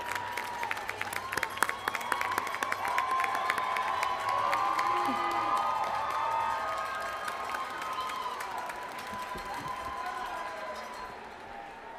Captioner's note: cheers and applause